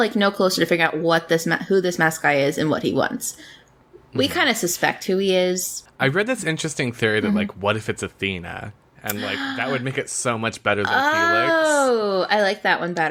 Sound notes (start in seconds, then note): 8.8 gasps